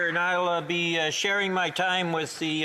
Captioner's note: some Applause